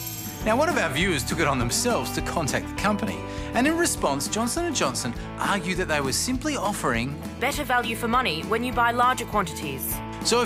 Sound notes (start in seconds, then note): none